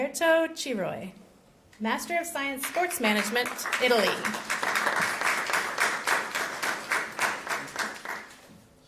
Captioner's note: applause